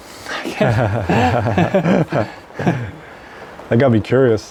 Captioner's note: both laughing